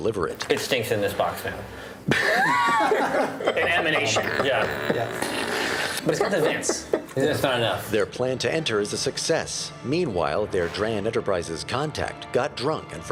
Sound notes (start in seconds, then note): 3.9 fart noises